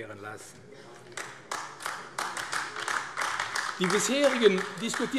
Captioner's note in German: Beifall AfD